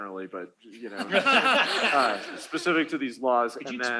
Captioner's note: laughter